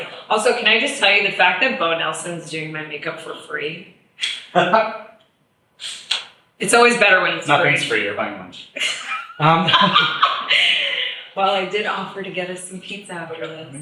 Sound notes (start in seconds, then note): 4.6 laughs; 8.7 laughs; 8.8 chuckles